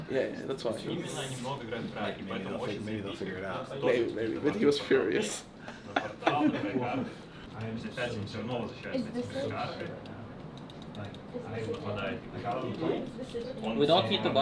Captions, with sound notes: - Yeah that's why. - Like maybe they'll figure it out. - Maybe, maybe but he was furious. (laughs) (people chattering)